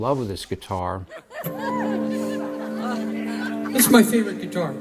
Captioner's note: laughter